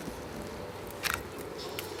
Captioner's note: camera shutter clicks